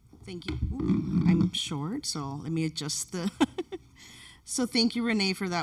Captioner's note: laughs